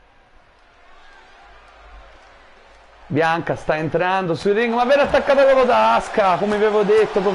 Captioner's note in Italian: Applauso